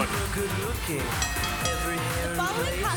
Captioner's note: bell ringing